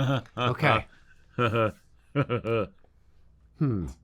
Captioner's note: evil laughter